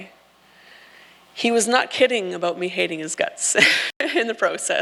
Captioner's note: laughs